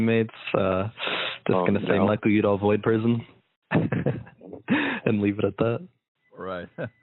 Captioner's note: laughs